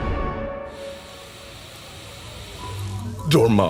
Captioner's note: static